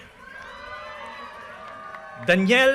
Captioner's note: audience cheers and applause